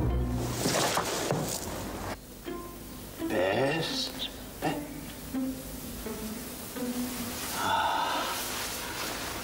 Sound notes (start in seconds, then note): 0.0 dramatic regal music; 1.4 Bess crashing